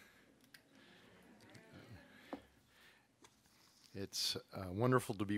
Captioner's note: audience murmuring